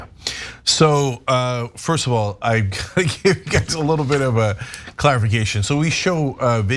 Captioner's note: laugh